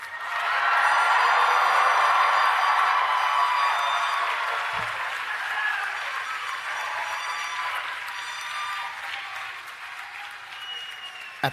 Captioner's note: applause